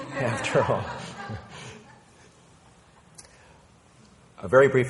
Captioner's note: people laughing